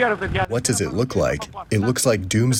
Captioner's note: through translator